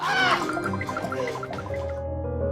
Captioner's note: laughs